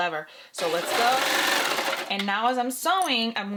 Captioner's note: sewing machine whirring